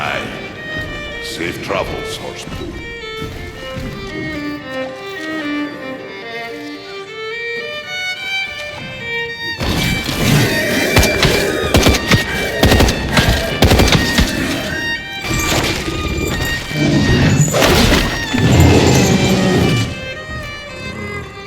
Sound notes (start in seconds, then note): 10.7 gunfire; 17.9 big Growl